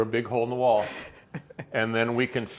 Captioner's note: laughing